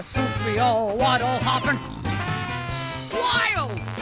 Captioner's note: snore